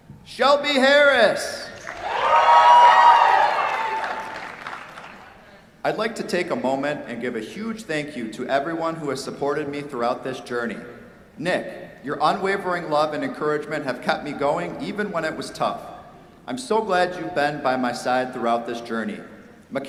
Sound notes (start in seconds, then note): 1.7 cheers, applause